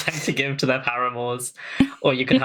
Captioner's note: laughs